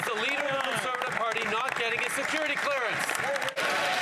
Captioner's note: some Applause